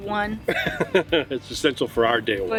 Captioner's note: laughs